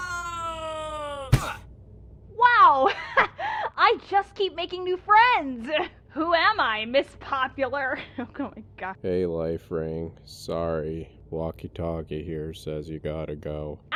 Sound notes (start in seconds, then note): 0.0 lifering screams; 8.2 laughs